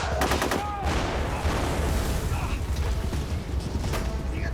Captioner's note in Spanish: Disparos; Explosiones